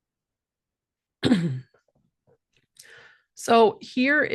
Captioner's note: clears throat